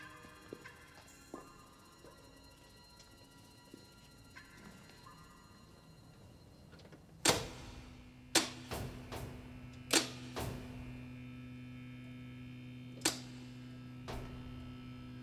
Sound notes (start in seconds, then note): 7.2 stage lights click and hum